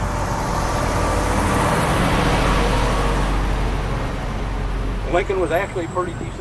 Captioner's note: pause as loud truck passes